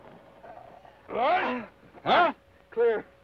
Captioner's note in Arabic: يصرخ الشريف